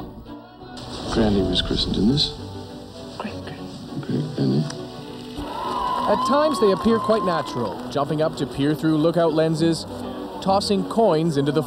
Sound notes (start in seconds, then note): 4.6 film projector whirrs